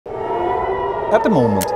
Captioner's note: alarm blares